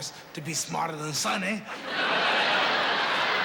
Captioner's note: laughter